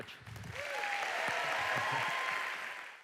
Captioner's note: audience cheering